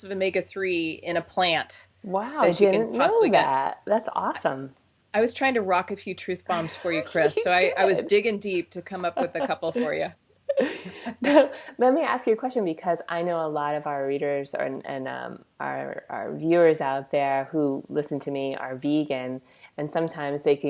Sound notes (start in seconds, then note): 9.0 laughs